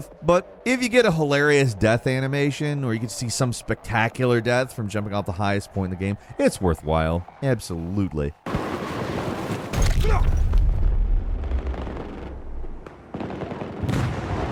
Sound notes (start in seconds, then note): 10.0 man groaning